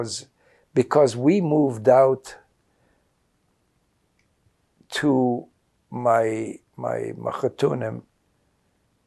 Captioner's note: yiddish